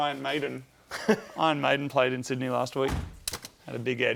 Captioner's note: chuckles